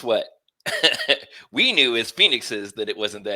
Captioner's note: laughter